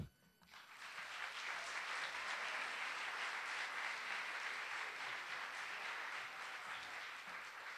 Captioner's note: applause